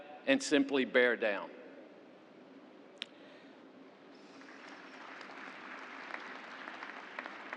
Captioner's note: applause